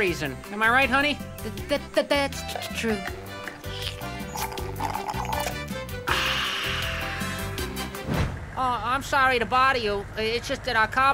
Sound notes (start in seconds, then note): 4.1 slurping; 6.0 sighing